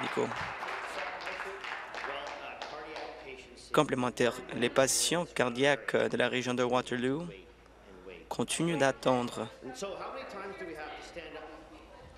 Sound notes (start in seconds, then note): 3.2 applause